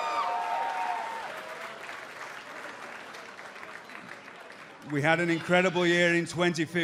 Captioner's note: cheers and applause